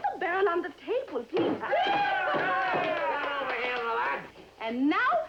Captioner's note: cheers, Whooping